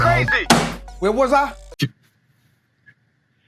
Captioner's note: phone beeping